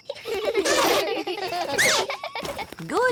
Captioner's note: all giggling